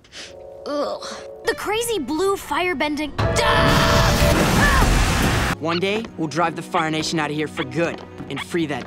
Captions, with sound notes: Ugh! The crazy blue firebending-- [screaming] One day, we'll drive the Fire Nation out of here for good and free that town.